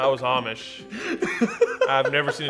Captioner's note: laughs